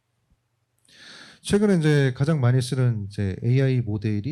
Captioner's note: speaking korean